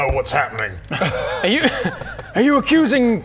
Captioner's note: laughs